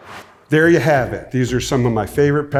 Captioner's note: air whooshes